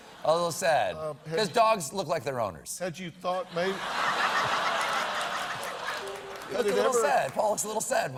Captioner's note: laughter